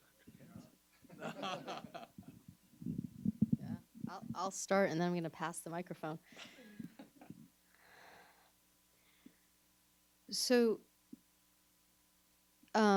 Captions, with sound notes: (everyone laughs) - Yeah, I'll start, and then we're gonna pass the microphone.